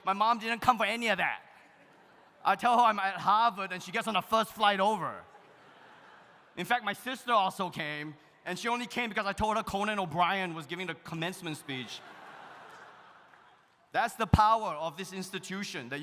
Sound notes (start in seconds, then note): 11.6 audience laughs